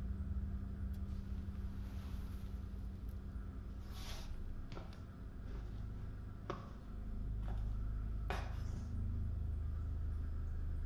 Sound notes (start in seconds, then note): 5.3 footsteps receding